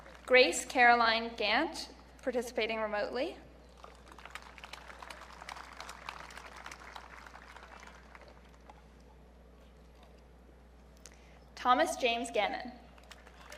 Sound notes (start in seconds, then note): 3.7 audience clapping